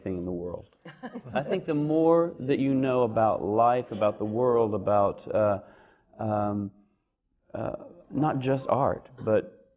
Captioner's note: laughs